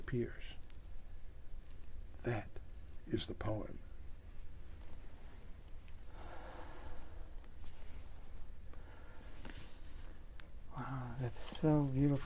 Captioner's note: sighs